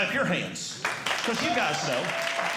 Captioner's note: audience Clapping